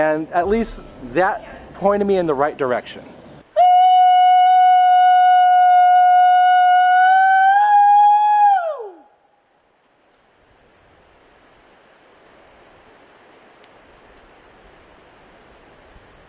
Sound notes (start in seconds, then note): 11.6 leaves rustling